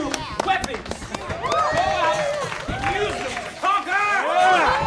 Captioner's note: cheers